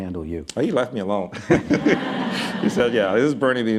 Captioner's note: laughter